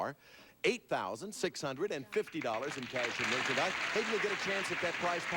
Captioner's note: audience applauding